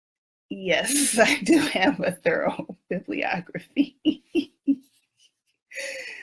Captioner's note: laughs